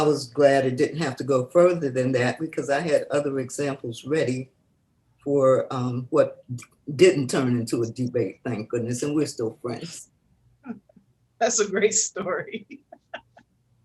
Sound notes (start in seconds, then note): 12.7 laughs